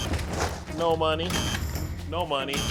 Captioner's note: buzzer blares; buzzer blaring